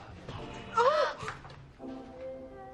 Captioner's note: gasp